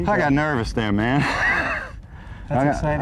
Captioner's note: laughter